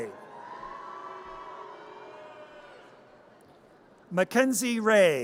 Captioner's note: audience cheers